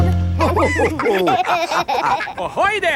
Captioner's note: all laughing